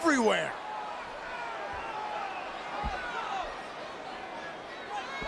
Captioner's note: crowd murmuring